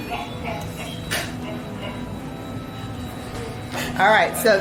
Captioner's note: meter device laughing